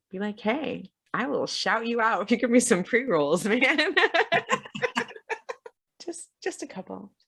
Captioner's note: laughs